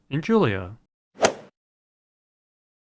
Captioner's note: swoosh